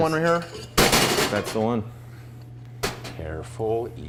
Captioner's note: tin bangs